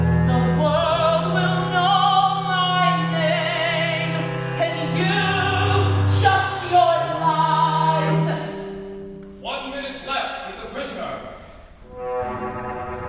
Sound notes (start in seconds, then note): none